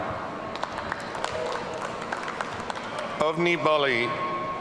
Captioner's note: audience applauding